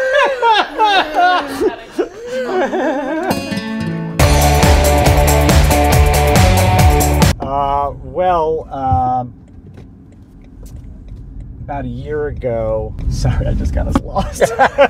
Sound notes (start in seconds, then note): 0.0 raucous Laughter; 3.2 acoustic guitar; 8.7 turn signal clicking